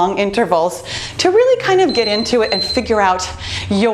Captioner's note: beeping